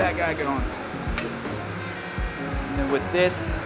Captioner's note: metal clanks